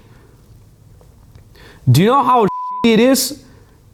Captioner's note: beep